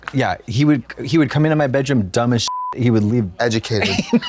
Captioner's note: beep